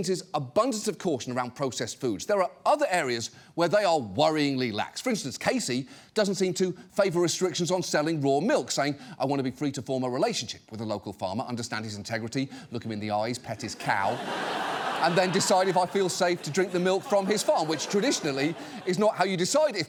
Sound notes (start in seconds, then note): 13.7 studio audience laughs